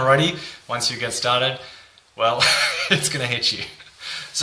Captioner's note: laughing